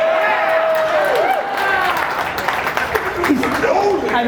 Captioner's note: audience cheers